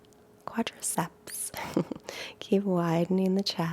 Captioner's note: chuckles